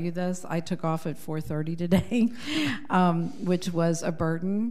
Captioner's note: laughs